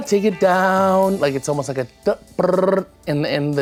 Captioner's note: rolling lips